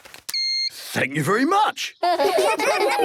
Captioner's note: beeps; children giggling